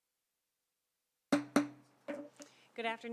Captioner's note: gavel hitting dais